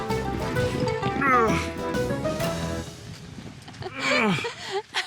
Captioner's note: thud; groans; laughing